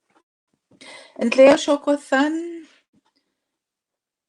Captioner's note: speaking Indigenous language